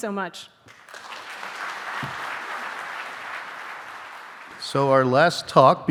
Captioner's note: audience applauding